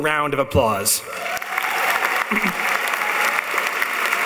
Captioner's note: applauding